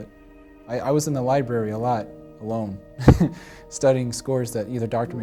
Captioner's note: laughs